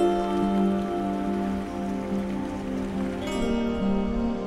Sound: water splashing

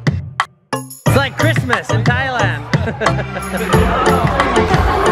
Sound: laughs; upbeat music

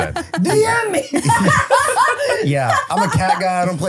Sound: laughing

